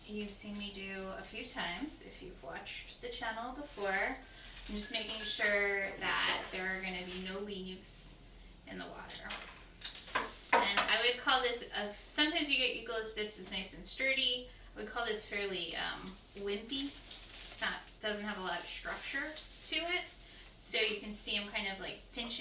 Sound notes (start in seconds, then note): 10.5 knock